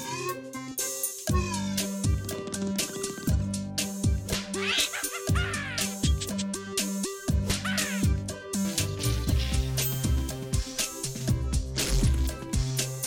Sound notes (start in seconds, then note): 4.5 laughing